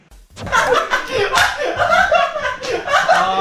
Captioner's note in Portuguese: Rindo muito